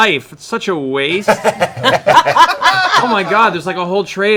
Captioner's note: laughter